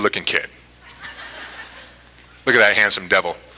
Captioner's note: laughter